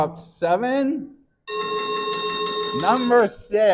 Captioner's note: chiming sound effect